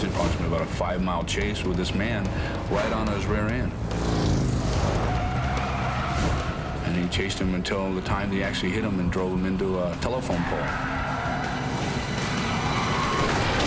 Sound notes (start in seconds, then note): 3.9 roaring and screeching